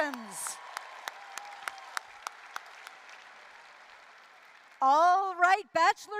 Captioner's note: applause, cheering